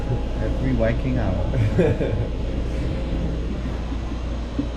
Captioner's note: chuckles